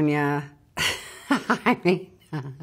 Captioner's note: Juliette laughing